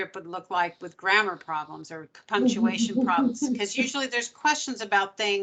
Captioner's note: giggling